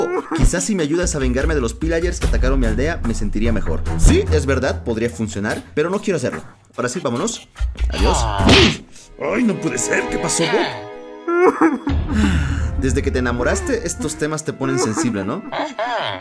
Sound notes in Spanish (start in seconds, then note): 8.4 Sonido de golpe